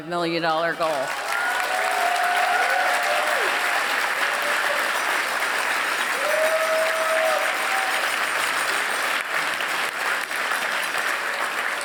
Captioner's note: applause